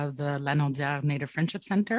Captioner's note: speaking French